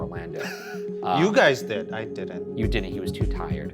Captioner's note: laughs